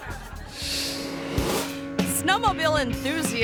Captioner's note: audience laughing; engine whirring; graphic whooshes